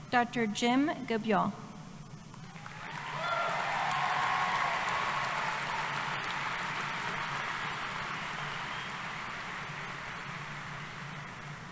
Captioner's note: applause